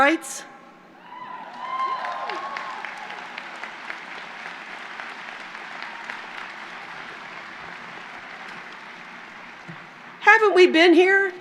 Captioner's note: applause